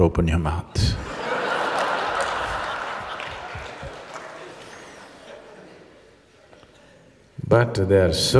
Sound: laughter

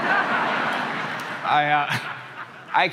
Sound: crowd laughing

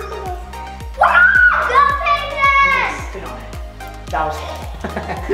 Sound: child whoops and cheers

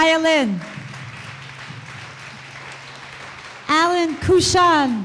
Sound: audience applause

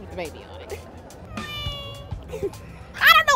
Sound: baby crying

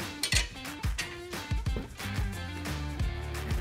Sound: bar taps

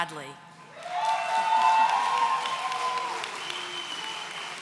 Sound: audience cheering

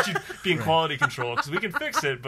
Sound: laughs

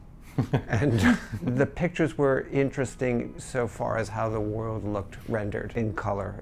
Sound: laughs

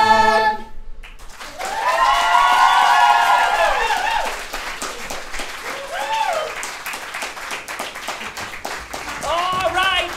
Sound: audience cheering

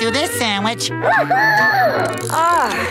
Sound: squeaking

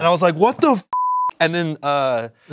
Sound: beep

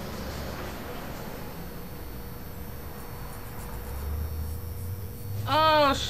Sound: neon buzzing faintly

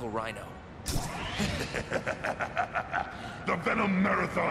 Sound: Venom laughing

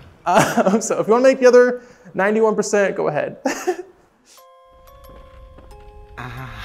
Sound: chuckling

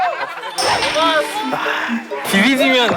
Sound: hmm

